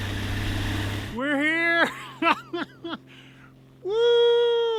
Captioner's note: chuckles